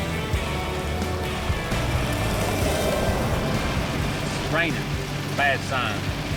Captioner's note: rain falling